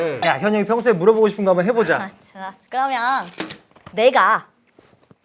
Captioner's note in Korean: 싹둑